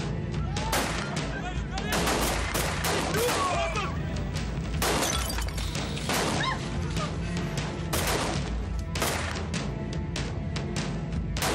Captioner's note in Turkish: Kurşun sesleri